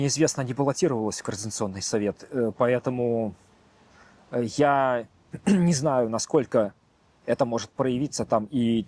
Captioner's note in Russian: откашливается